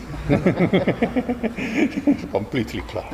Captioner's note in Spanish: risas